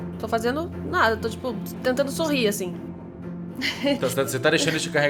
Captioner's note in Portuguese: risada